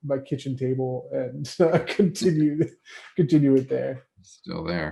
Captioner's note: laughs